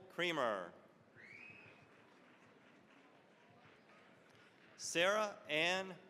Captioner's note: applause